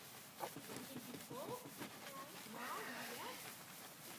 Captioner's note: faint scrubbing sound